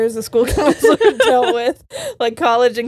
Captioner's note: all laughing